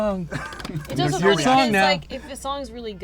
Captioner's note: laughs